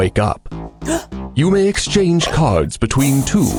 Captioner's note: gasps